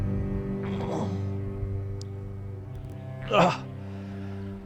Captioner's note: Arawn groaning